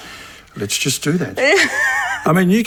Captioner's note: Alice laughs